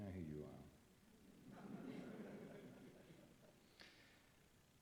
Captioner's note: laughter